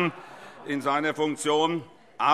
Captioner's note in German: Heiterkeit